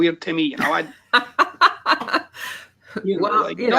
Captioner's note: laughs